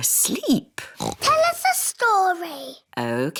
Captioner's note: oinks